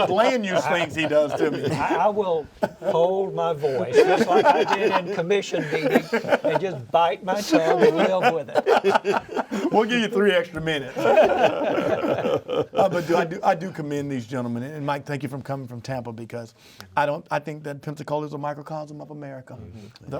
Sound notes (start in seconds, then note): 4.7 all laughing; 10.9 all laugh